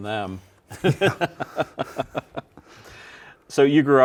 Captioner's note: both laughing